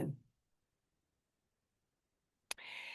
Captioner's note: pause